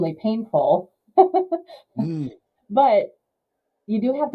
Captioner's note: laughs